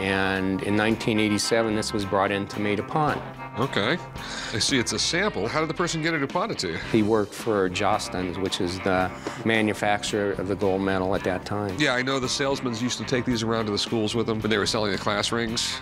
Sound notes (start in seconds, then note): none